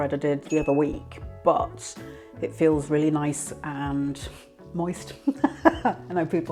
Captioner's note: laughs